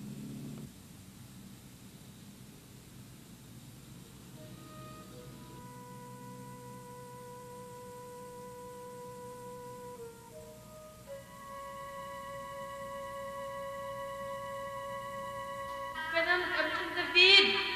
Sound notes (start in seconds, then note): 4.3 sad music; 11.0 piercing pitch